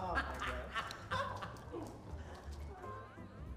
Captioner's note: laughs